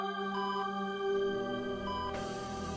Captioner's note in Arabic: صفير